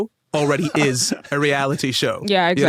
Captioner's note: laughs